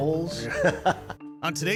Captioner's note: laughing